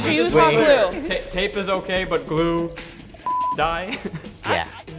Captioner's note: beep